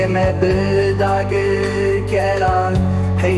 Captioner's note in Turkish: İnleme her yere düştü